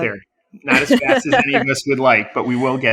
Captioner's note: laughs